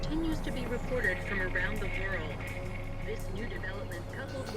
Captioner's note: static